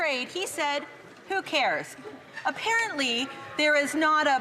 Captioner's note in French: voix de l'interprète